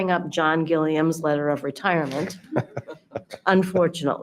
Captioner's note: people laughing